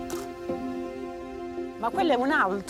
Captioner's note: shutter clicks